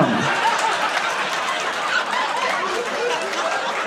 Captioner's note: audience laughing